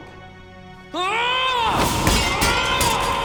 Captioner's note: groaning